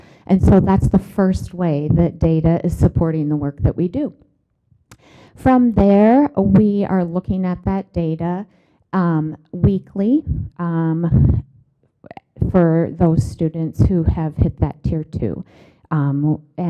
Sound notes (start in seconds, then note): none